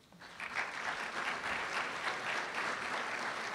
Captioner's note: applause